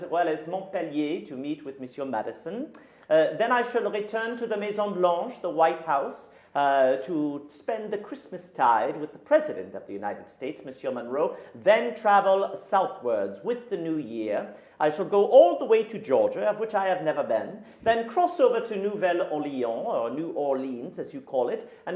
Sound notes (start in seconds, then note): 4.8 speaking in a foreign language; 18.6 speaking in a foreign language